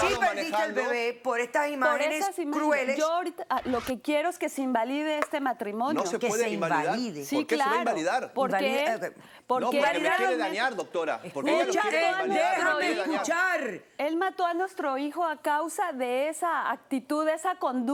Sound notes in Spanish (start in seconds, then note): 12.3 Comentarios al unísono